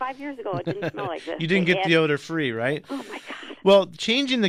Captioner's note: laughs